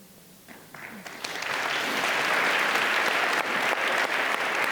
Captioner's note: audience applauding